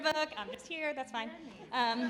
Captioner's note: laughing